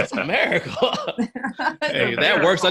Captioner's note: laughs; laughing